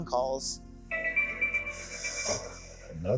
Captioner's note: station tones